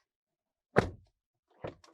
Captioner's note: door Thud